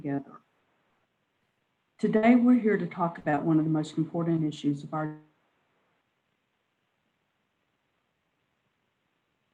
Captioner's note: audio drops out